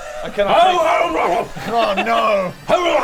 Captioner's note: deranged barking